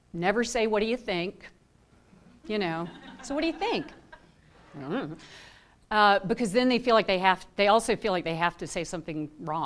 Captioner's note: laughter